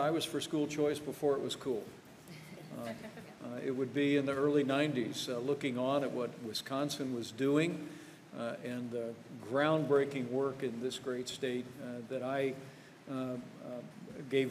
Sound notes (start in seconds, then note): 2.5 laughter